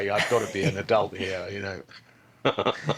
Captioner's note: all laughing